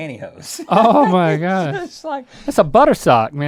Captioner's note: both laughing